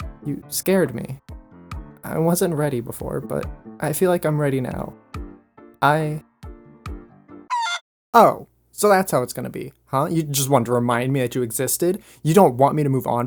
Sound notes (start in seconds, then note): 7.5 chicken crow